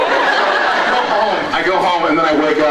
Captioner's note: laughs